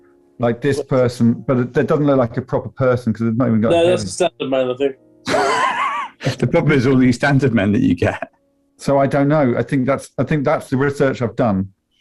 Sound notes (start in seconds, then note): 5.3 sniggering